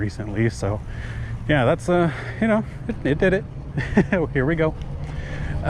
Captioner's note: chuckles